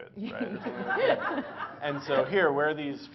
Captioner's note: Laughter; 笑聲